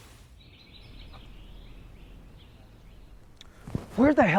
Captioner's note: birds singing